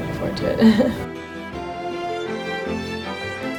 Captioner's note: laughing; soft music